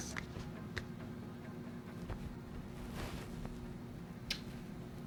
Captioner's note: fists thudding; lips smack